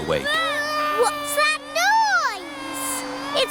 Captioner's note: vacuum cleaner whirring